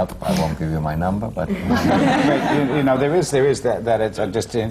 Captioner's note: laughter